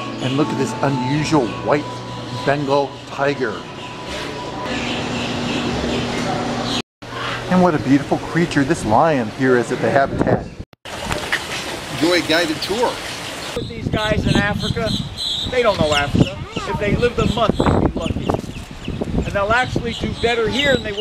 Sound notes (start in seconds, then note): 4.7 birds chirping